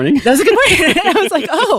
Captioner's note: laughs